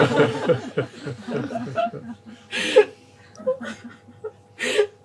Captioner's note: laughter